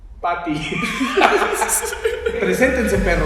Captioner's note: laughing